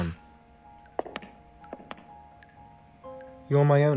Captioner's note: pencil scratches; footsteps; water dripping